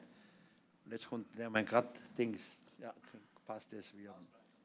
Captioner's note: non-english speech